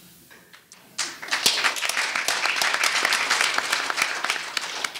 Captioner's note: audience applauding